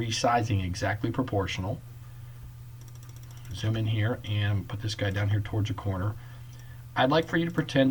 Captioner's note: clicking